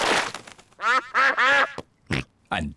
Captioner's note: snorts; ducks quack